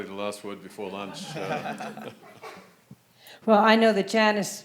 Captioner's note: everyone chuckling